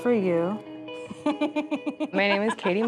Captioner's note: laughs